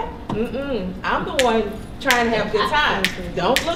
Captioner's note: snaps